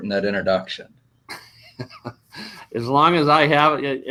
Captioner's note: both laugh